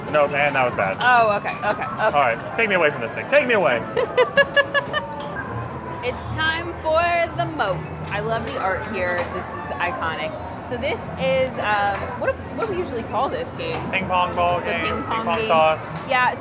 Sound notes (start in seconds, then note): 3.9 laughs